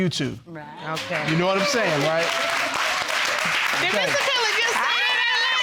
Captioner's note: audience applauding